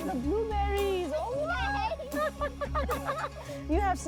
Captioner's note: laughing